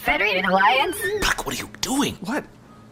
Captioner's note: whispering